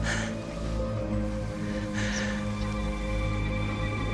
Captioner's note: whispering